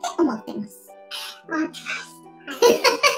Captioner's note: laughs